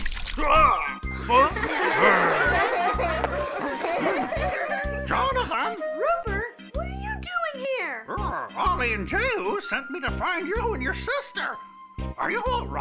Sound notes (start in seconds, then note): 1.2 laughing